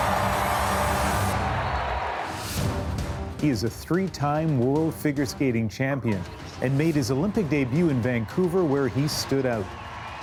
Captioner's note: cheers and Applause